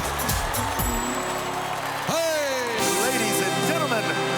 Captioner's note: cheers and applause